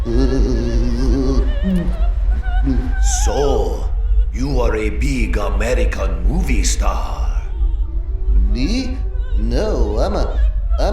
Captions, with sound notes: (shudders) (gulps) So, you are a big American movie star? - Me? No, I'm a-